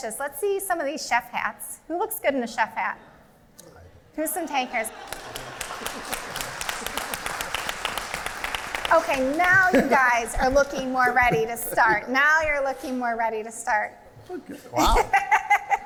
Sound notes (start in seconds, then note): 4.6 laughter; 4.9 applause